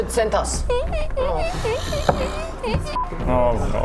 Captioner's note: squeaky cart wheel